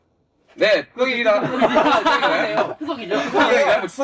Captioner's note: laugh